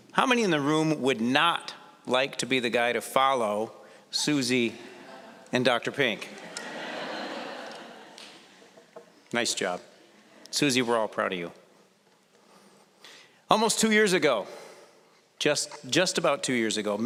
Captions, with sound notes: How many in the room would not like to be the guy to follow Suzy and Dr. Pink? (audience laughing) Nice job. Suzy, we're all proud of you. Almost two years ago-- just about two years ago,